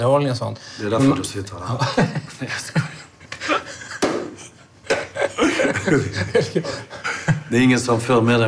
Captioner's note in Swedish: skrattar